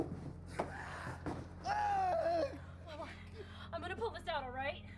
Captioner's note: screams